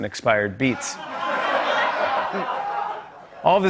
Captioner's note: laughter